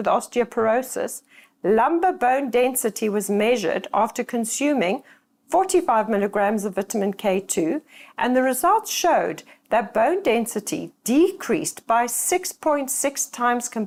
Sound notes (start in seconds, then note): 1.0 voiceover